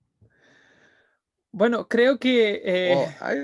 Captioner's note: speaking in Spanish